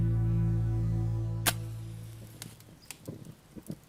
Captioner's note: birds chirping; match striking; fire crackling